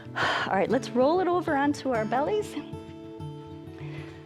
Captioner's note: exhales